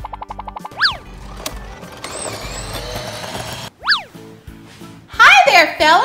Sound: scooter motor humming

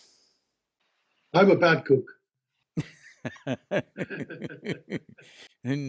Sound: both laugh

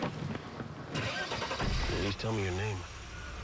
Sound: starts engine

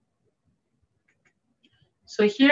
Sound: mouse clicking

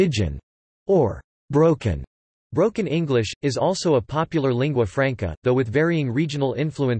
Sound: broken English

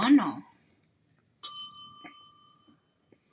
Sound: bell dings

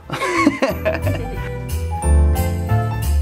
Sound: laughter; christmas music

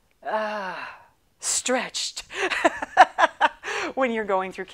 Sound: laughing

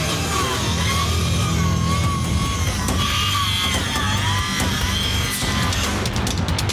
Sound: saw whirring; dramatic rock music

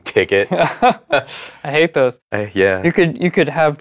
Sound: laughing

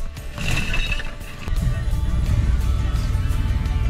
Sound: boat crashing

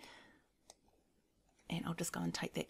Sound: mouse clicking

